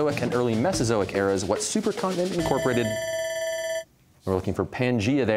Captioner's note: bell ringing